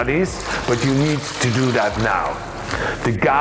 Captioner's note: water sloshing